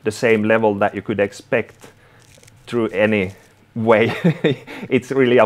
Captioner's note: chuckles